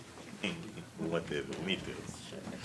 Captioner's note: speaking Portuguese